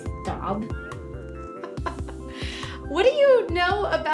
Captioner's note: laughs